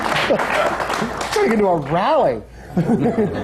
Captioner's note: laughter; laughter